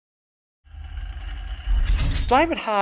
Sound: screen clanging

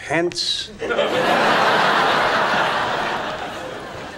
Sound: audience laughing

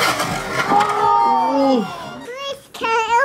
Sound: crowd

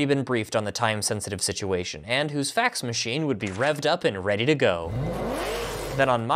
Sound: car engine

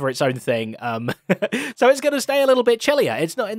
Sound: chuckles

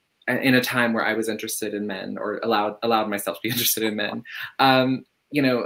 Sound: laughs

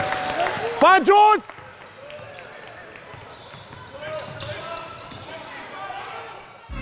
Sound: audience applauds; overlapping chattering

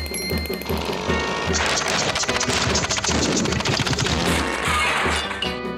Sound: crashing engine

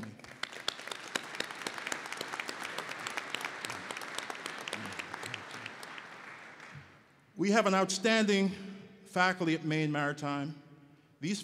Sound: applause

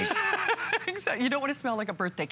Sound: laughter

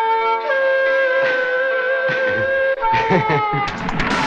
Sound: laughs

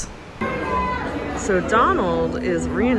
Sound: chattering

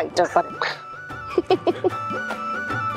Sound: chuckling

